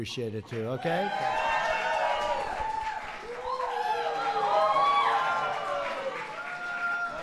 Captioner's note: applause